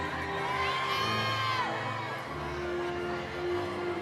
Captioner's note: audience cheering